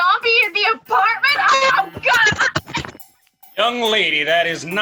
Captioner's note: clunking of laptop hitting the floor